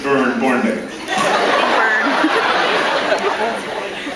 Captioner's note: laughs